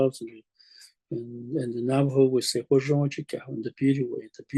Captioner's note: speaking Navajo